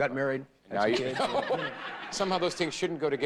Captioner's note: audience laughing